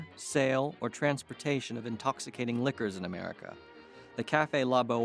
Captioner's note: people chattering